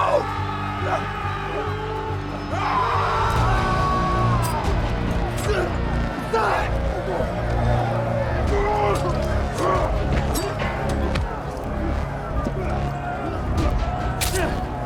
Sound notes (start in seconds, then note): 0.1 soldiers shouting; 3.1 tense dramatic music; 5.2 grunting with effort; 5.2 knives slicing